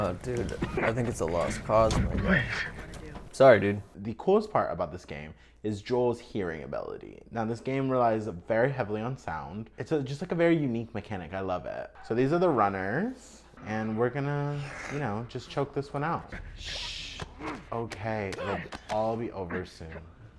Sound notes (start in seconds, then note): 16.2 shushing